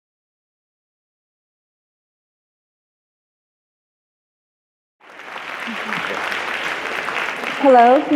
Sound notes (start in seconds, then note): 5.0 applause